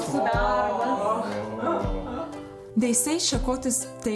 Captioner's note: speaks in lithuanian